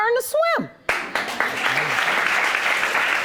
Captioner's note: audience applauding